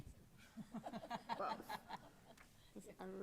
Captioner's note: laughs